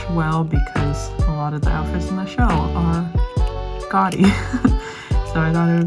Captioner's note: laughs